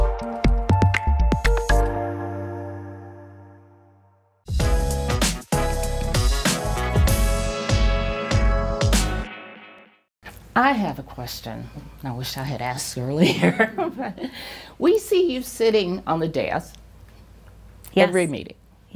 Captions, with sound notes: (light music) (smooth uptempo music) I have a question I wish I had asked earlier, (chuckles) We see you sitting on the dais every meeting.